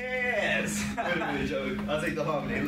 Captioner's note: laughs